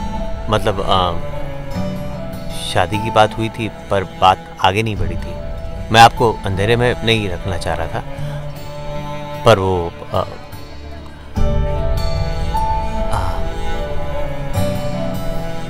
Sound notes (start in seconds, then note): 13.1 Anuj exhales